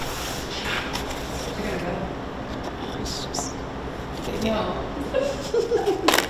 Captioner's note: indistinct conversations and laughing